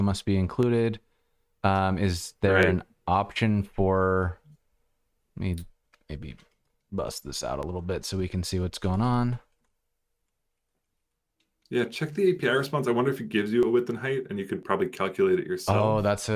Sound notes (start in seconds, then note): 5.7 audio cutting out